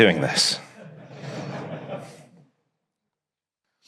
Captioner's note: audience laughs